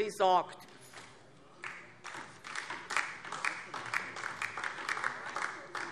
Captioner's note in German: Beifall DIE LINKE